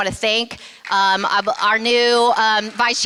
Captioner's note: applause